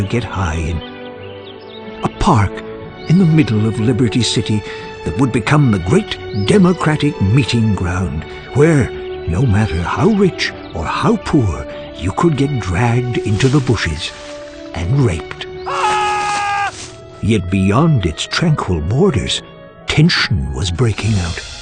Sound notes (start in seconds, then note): 15.6 ahhhhh!